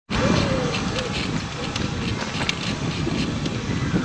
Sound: wheels squeaking

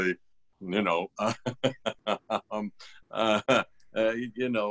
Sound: laughter

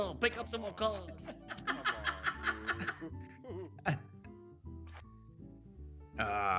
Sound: laugh

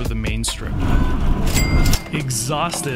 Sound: dings

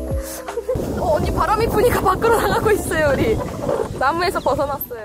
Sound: strong breeze

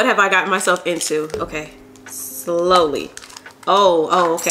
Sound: water drop plopping

